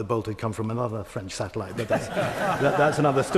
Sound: laughter

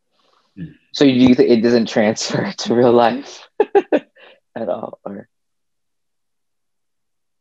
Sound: laughs

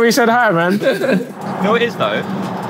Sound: both laughing

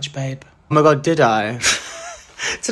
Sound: laughs

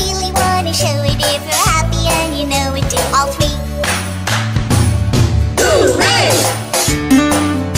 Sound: clap clap stomp stomp Hoo-Ray

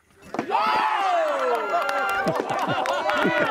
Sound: cheering

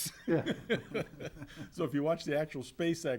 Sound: all laughs

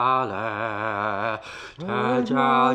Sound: gasp

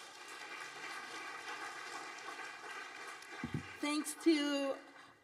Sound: audience applauding

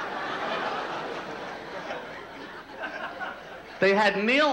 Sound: audience laughter

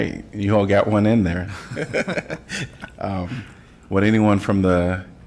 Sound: laughter

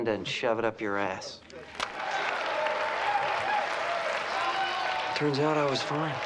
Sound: crowd cheers

